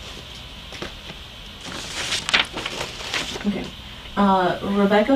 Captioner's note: paper rustling